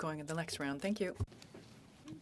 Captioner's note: speaking FRENCH